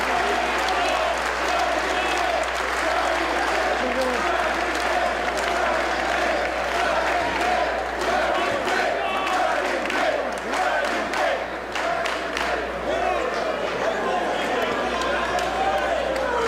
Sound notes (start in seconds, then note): 5.5 applause